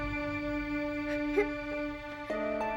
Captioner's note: lisa crying